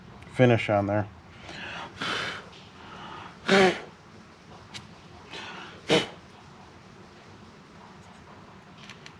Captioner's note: clears throat